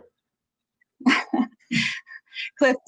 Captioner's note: laughing